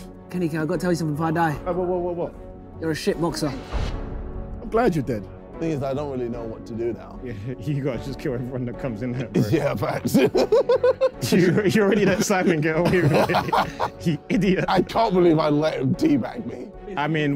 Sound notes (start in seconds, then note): 9.2 laughing